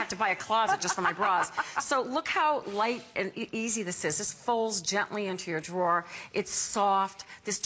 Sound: laughter

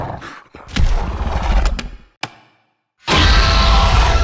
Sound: dinosaur growling; claw tapping; dinosaur roars

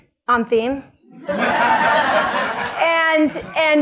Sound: laughter

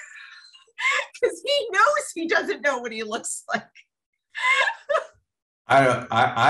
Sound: laughter

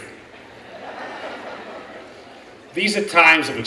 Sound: laughing

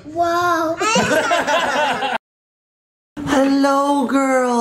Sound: everyone laughs

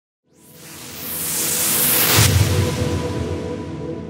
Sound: whooshing

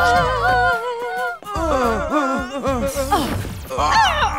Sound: screaming and grunting

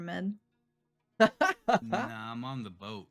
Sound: laughing

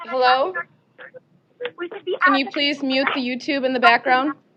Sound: distorted audio continues

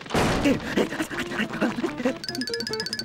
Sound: panting

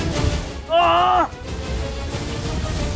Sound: Dhruv screams

